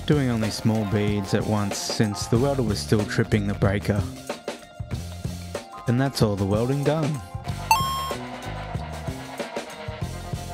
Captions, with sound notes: doing only small beads at once since the welder was still tripping the breaker. And that’s all the welding done. [Victory chime]